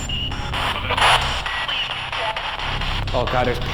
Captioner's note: distorted speech